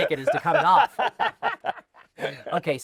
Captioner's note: laughter